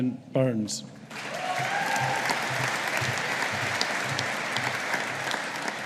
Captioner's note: audience applauding